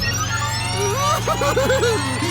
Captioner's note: giggling